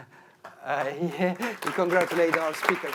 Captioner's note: audience applauding